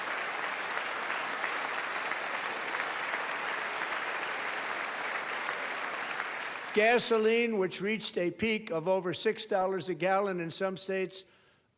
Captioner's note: applause